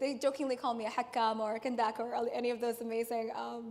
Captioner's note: speaks in foreign language